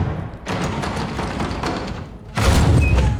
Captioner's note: doorknob rattling